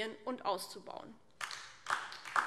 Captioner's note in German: Beifall DIE LINKE